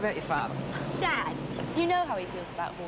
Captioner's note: scoffs